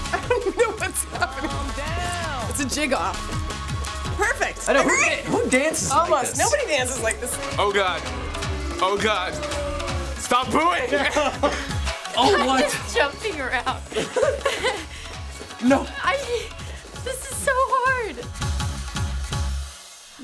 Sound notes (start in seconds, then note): 7.2 in game: booing; 13.8 both laugh